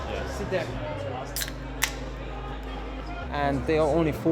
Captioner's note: can tab hisses